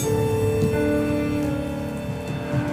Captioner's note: bag rustles; intense music continues